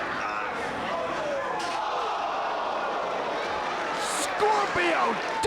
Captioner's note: audience gasping